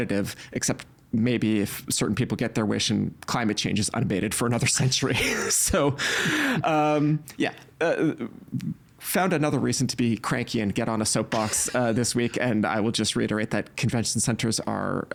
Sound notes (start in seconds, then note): 5.2 chuckling; 7.3 stammering